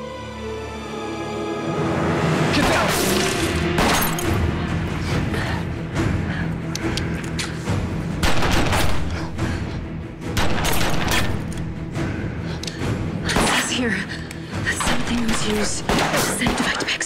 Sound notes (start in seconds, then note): 2.3 dramatic music; 2.6 gun blasting